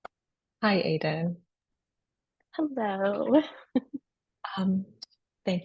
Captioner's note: chuckles